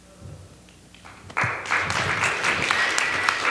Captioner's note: applause